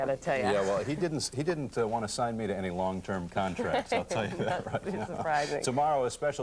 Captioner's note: laughing